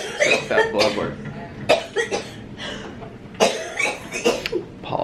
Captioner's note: coughing